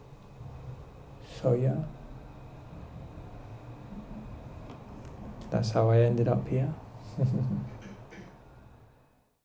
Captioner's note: chuckles